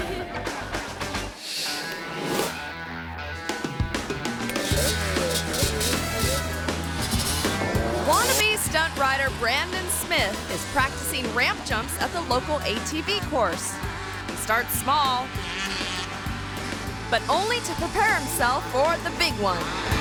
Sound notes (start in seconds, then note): 0.0 audience laughing; 1.7 upbeat music; 4.5 engine revving; 15.4 engine revving